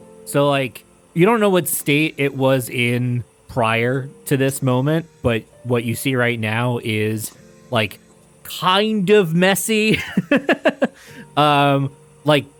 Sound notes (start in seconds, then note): 9.8 chuckles